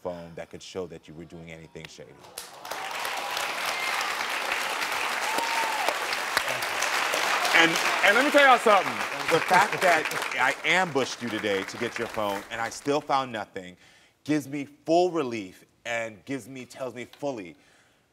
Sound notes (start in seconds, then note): 2.7 crowd cheering; 2.7 crowd clapping